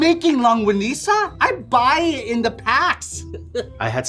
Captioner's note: laughing